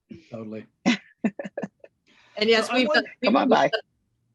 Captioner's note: laughs